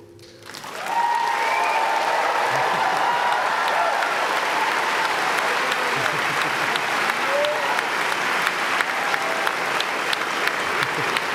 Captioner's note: applause